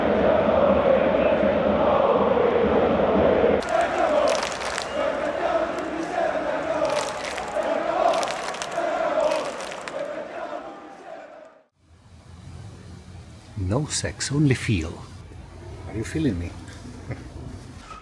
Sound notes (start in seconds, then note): 9.4 crowd chanting